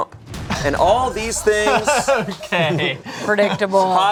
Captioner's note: group laughing